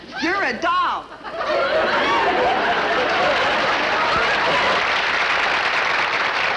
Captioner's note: audience cheering and laughing